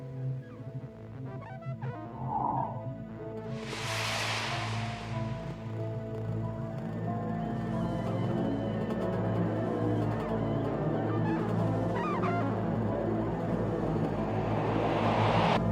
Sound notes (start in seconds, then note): 2.2 dramatic music; 3.5 screens whooshing